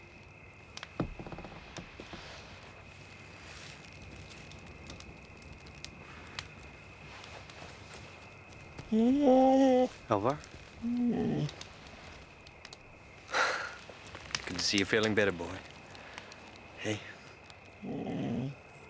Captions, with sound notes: (fire crackling) (Alvar whimpers) - Alvar? Good to see you're feeling better boy. Hey.